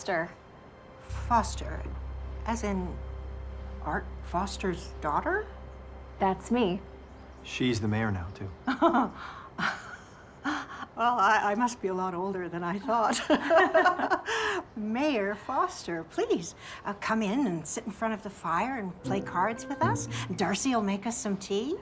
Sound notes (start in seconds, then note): 8.7 laughing; 13.1 both laughing